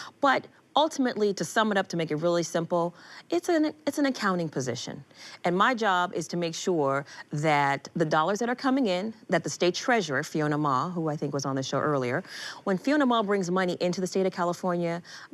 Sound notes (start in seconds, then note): none